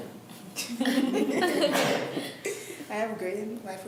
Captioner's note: laughs